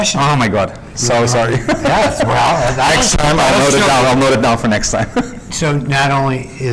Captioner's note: laughs